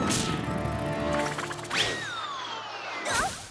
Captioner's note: crack!; whiffle! whistle!